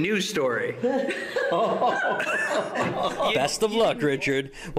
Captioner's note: laughter